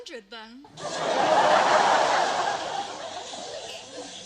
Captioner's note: laughter